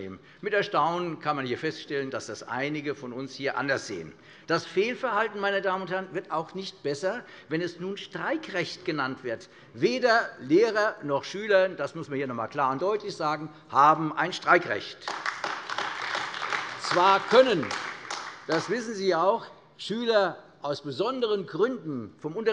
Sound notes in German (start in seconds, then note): 15.0 Beifall AfD